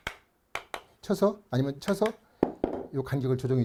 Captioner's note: hammering sound